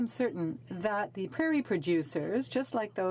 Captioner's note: speaking French